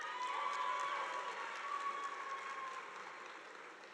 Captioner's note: audience applauding